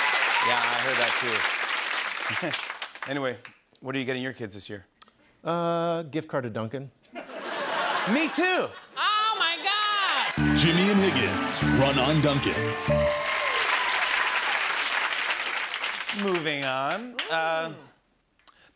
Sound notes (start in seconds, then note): 2.1 chuckles; 7.1 laughter; 13.9 applause